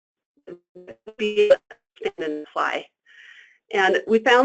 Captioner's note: static